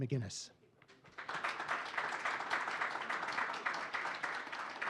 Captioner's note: audience clapping